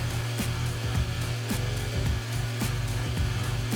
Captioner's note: trainer whirs